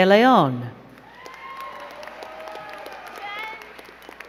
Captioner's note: crowd cheering and clapping